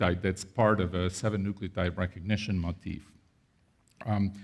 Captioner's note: none